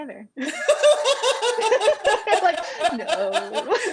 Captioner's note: laughter